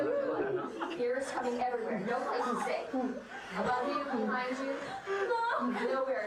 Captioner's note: group chattering indistinctly